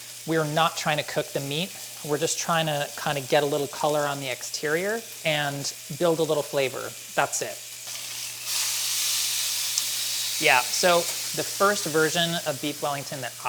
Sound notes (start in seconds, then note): 8.1 beef sizzles